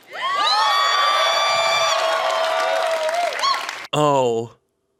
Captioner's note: audience cheering